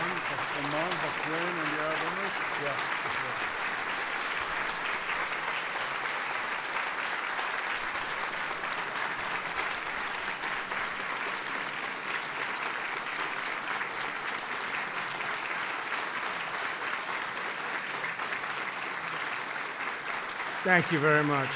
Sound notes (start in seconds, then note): 5.1 off-mic